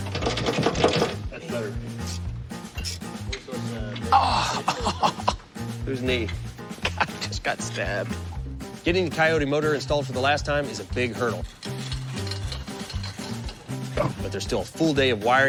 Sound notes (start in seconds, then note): 3.9 laughs